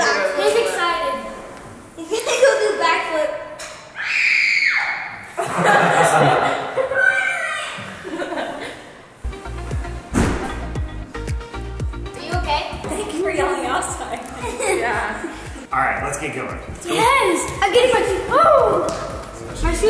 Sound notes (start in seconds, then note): 4.0 screaming; 7.8 family laughs